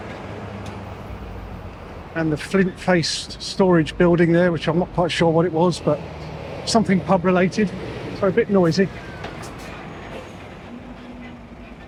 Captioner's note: train chugging